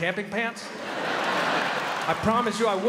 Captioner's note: crowd laughs